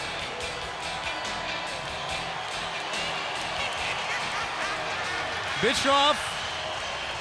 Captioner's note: crowd cheering